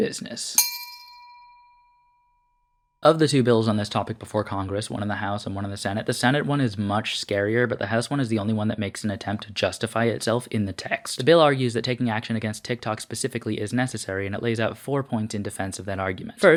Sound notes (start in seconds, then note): 0.6 bell sound